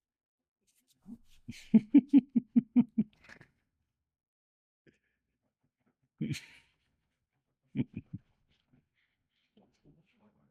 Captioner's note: laughing